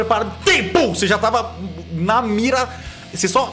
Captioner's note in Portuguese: pow